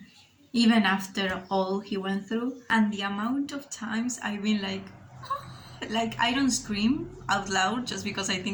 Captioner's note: screeching